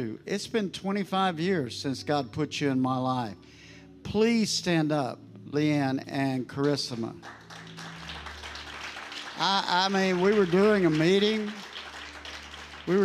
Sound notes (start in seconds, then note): 6.9 congregation applauding